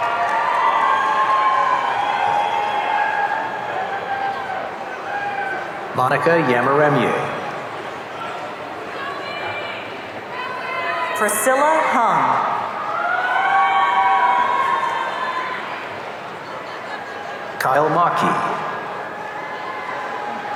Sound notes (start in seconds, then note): 0.0 audience cheering; 12.2 audience cheering